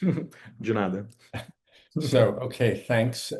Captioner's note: non-english